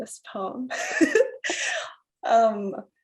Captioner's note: chuckles